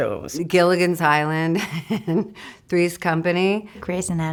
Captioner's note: laughs